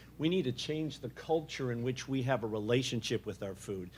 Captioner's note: none